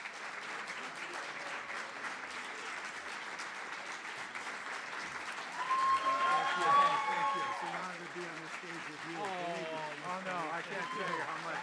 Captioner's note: applause & Cheering